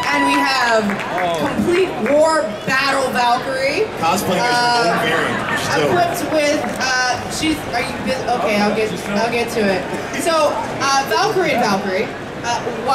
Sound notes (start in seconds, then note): 4.3 audience laughing